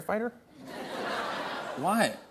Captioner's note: laughter